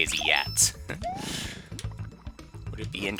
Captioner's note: inhaling